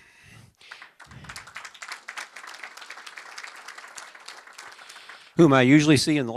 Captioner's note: applause